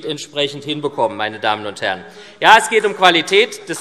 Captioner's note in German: Beifall SPD